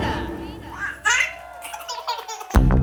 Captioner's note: baby giggles